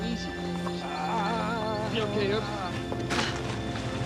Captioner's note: moans